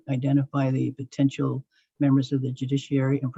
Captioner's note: none